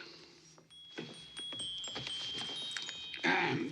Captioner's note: clock chimes